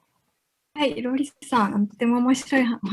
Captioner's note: speaking japanese